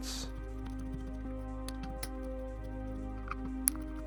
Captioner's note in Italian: sniffa